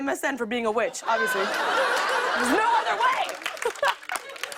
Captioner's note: laughter